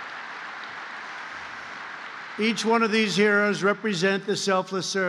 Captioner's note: applause